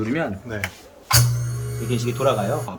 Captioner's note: machine working